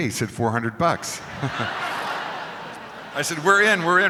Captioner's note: crowd laughing